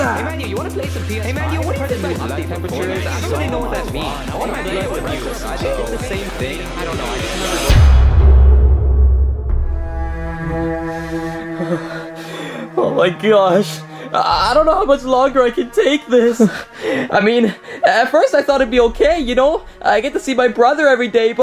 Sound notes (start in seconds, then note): 7.8 dramatic music; 11.0 Luigi sobbing